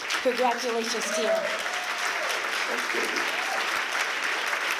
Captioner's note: applause